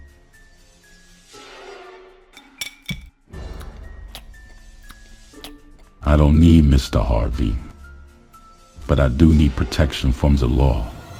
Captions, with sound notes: (suspenseful music continues) (chews) I don't need Mr. Harvey but I do need protection from the law.